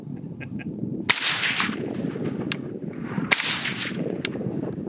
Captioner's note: gun shots